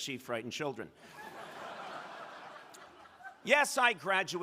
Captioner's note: crowd laughing